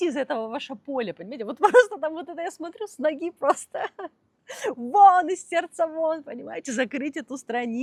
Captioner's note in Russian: смех